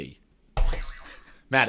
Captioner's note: boing sound plays